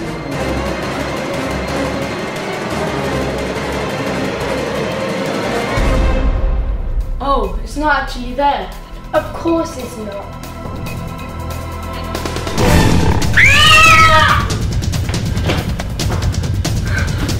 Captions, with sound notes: (suspenseful music) Oh, it's not really there. - Of course it's not. (gorilla growling) (screaming)